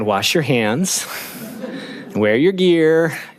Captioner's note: laughing